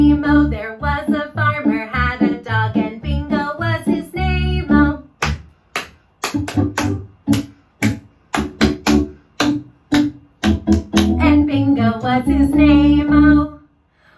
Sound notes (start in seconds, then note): 5.1 clap, clap, clap-clap-clap